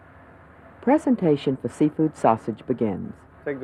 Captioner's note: voiceover